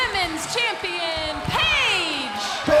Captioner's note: crowd chatter